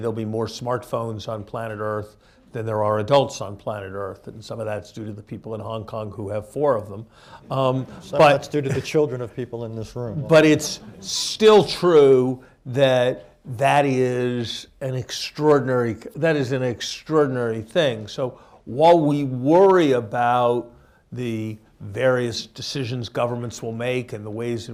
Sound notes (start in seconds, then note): 7.6 laughter